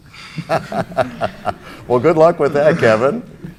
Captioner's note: laughter